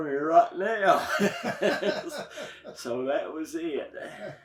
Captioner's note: both laugh